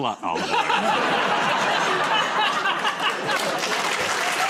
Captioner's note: laughter; applause